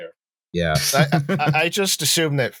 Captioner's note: chuckles